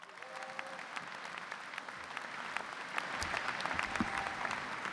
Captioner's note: audience clapping